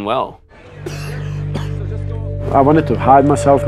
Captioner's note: coughing